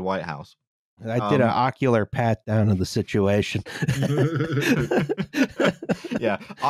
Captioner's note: laughter